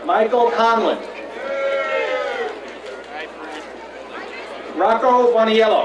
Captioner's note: crowd cheering